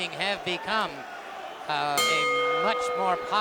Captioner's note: bell ringing